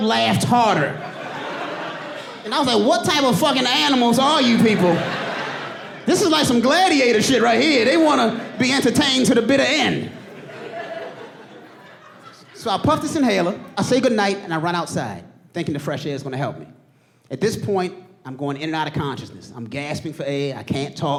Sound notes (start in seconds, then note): 5.5 audience laughing